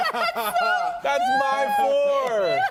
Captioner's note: laughter